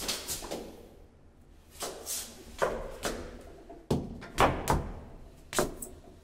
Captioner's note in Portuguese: som de passos